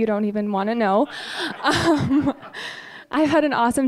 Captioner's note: audience laughing